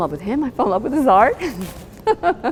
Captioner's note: laughs